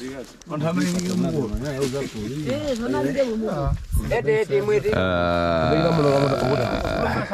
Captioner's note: villagers speaking in a foreign language